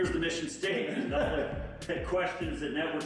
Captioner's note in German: lachen